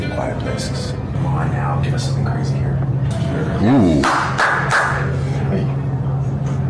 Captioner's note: claps